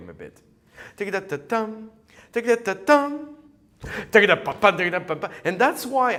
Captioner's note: humming